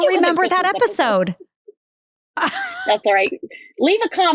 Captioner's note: laughs